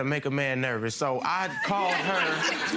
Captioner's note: crowd laughs